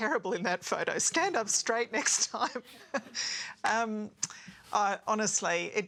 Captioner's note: laughs